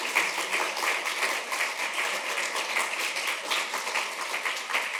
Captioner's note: applause